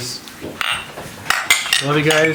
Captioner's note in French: tasses cliquetis